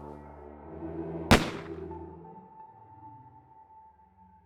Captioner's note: gun shots